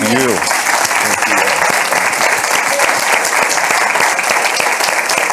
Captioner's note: audience applauding